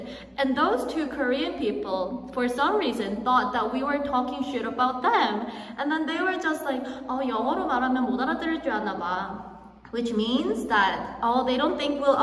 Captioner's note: speaking in korean